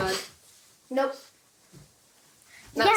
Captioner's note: kids talking